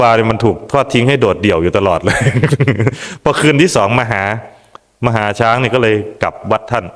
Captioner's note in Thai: เสียงหัวเราะ